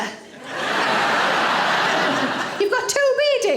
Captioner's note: audience laughing